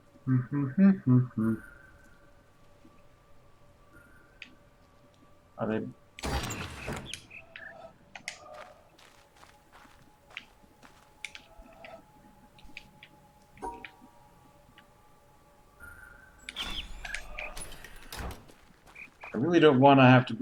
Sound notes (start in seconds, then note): 6.4 bird chirps five notes; 15.7 bird chirps high-high-low-mid; 18.8 bird chirps five notes